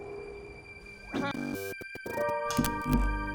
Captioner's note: logo whirring; light music